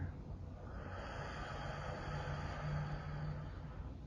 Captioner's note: exhales